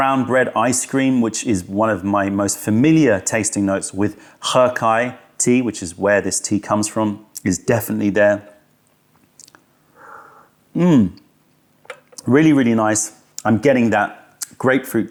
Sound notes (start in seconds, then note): 9.1 sips tea